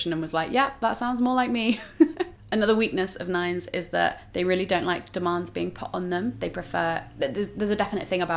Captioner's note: laughs